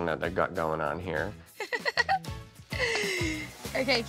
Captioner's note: giggles